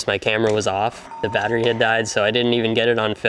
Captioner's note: electronic dinging